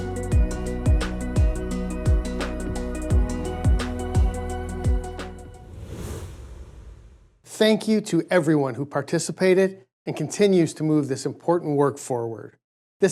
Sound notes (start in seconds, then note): 5.1 air whooshing